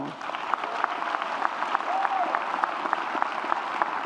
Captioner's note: audience cheers